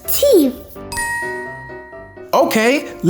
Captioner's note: magical ting